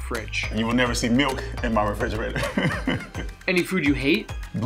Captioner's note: laughs